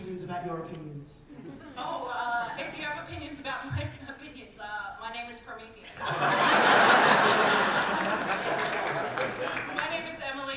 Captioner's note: audience laugher